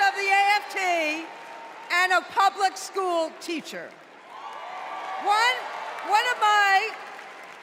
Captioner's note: applause